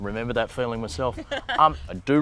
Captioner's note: laughing